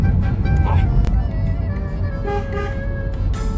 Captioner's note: beeps horn